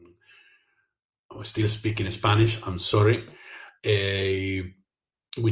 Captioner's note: in English